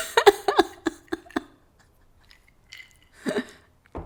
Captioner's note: laughing